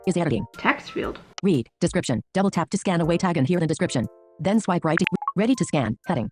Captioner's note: artificial female voice